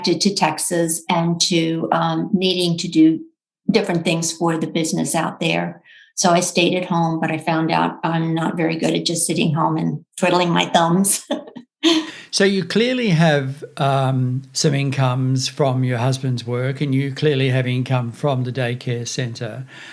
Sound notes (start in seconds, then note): 11.9 chuckles